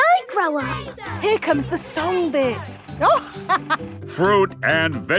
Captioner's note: chuckling